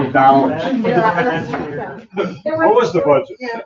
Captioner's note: members chattering